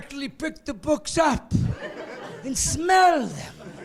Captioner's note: laughing